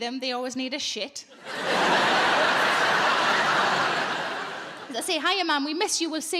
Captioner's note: audience laughs